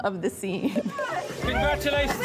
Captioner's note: cheers